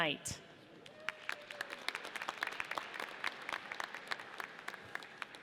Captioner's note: audience applauds